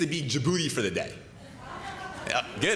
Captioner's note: laughter